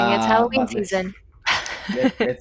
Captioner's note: laughs